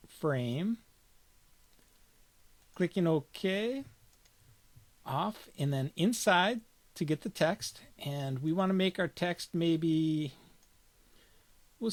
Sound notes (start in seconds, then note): 4.1 clicking